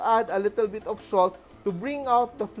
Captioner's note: sizzle